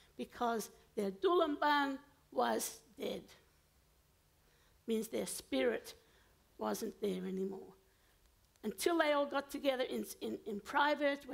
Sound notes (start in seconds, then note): 1.2 foreign language